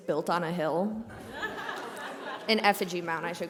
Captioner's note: laughter